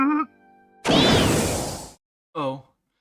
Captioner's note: poof